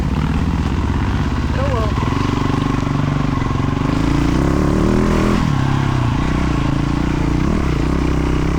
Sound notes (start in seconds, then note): 3.0 engine revving